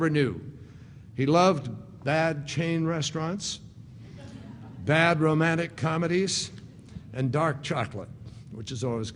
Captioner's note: laughter